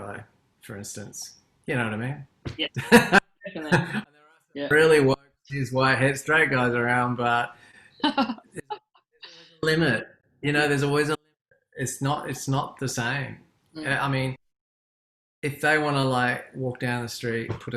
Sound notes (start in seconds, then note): 3.4 laughs; 4.7 speaking faintly